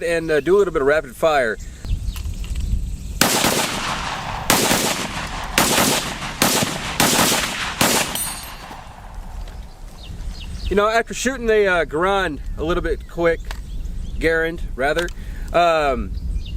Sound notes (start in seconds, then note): 3.2 gun fires many times